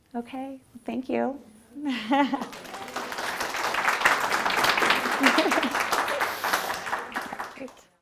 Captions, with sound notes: Okay, thank you. (laughs) (audience applauds) (laughs)